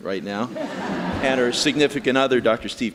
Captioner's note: audience laughing